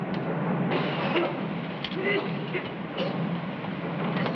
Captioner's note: coughing